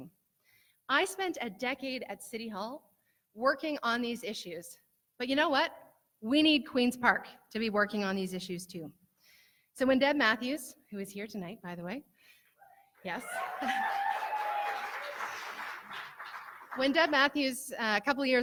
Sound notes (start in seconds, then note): 13.0 cheering